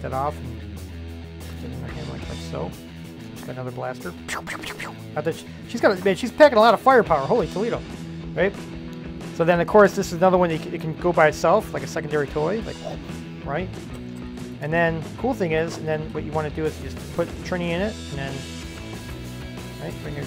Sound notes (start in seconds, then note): 4.2 whisping air